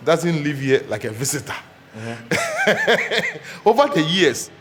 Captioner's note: laughs